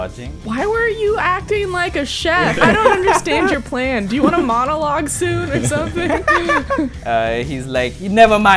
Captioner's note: laughter